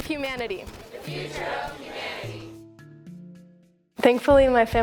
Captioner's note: crowd